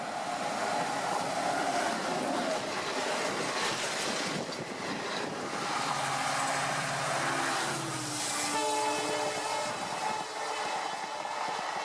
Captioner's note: train Ambience